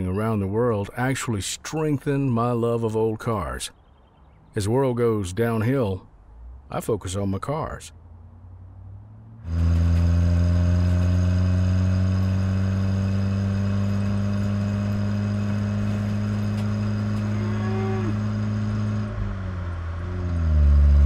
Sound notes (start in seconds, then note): 9.4 car engine roaring; 17.3 cows mooing